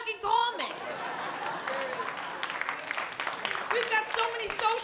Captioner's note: laughter & cheering